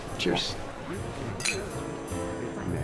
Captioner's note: glasses clink